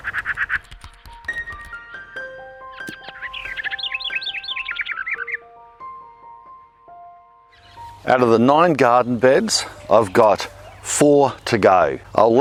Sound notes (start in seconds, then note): 0.1 gentle music; 2.1 bird chirping